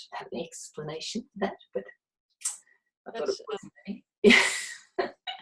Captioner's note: laughs